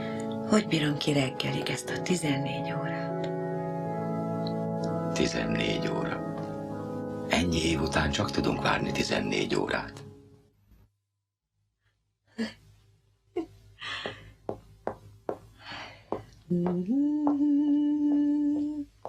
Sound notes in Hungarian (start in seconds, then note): 14.1 Carolyne boldog kuncogása; 16.4 sóhajt, vidám dallamot dúdol